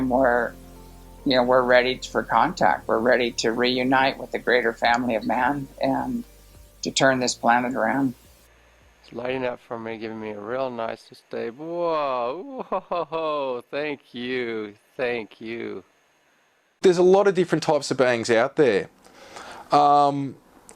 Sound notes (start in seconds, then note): 12.4 laughs